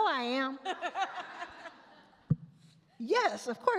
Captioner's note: all laugh